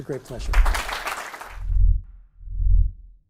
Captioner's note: applause